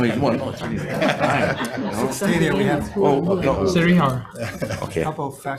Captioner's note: group muttering and laughing